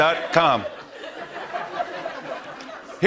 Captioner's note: laughter